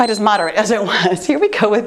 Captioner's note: timer beeps